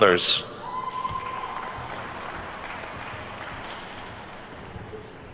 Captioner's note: attendees cheer and clap